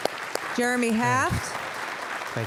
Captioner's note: applause